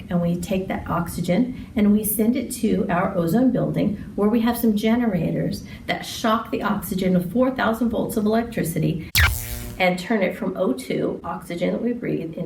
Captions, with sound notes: and we take that oxygen and we send to it our ozone building where we have some generators that shock the oxygen with 4000 volts of electricity. (electricity zaps) And turn it from O2, oxygen we breathe,